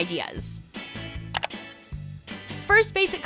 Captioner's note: clicking